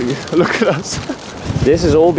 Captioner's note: cries